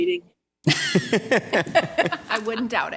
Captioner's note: laughter